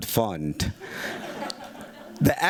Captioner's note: laughter